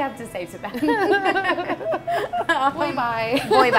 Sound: laughing

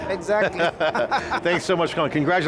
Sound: all laugh

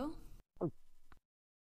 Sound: gulps

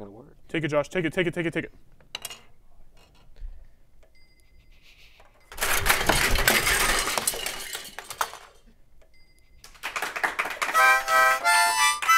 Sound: crash, Applause, Music

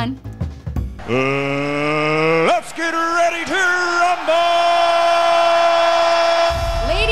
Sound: audience cheering

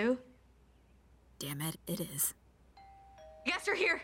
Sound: doorbell rings

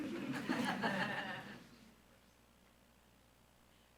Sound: audience laughs

